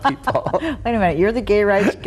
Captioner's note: both laughing